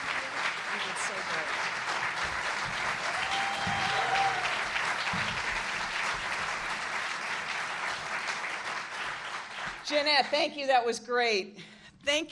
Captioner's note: applause